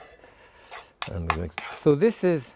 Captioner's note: spoon scraping